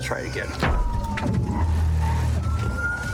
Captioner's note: thuds